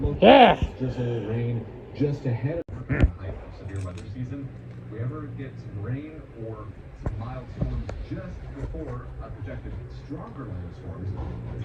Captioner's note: continues growling